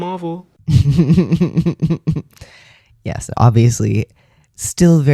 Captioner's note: laugh